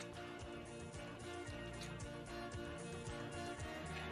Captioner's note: upbeat music continues; lips smacking